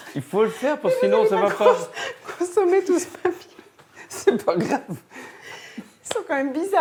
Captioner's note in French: rires